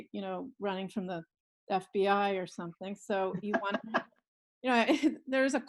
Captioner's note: laughs